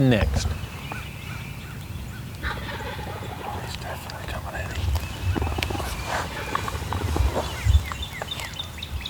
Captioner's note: whispering